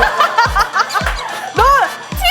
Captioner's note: humph